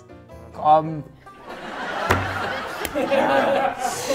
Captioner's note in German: Lachen